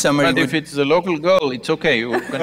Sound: laughter

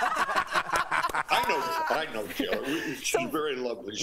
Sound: laughter

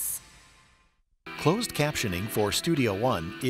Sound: voiceover

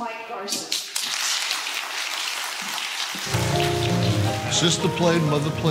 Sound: audience applauds; classical piano music

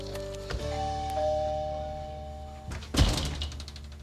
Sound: doorbell ringing

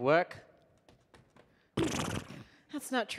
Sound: neighs

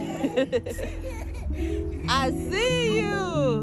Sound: woman laughing

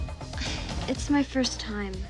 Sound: sighs

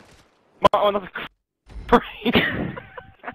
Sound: laughing

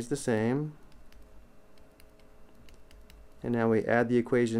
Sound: clicking

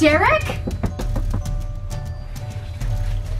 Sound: knocking

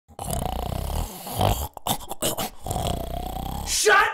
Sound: snoring

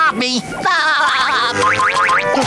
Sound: laughing

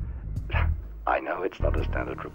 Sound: Preston scoffing

